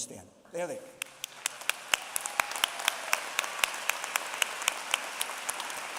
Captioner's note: applause